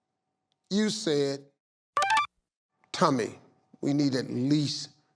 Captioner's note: machine beeping